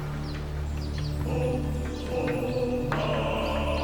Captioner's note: men chanting; birds